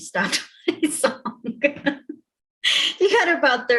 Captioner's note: chuckles